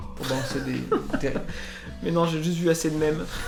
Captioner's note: laughs